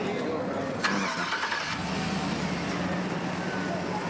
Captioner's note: car engine starting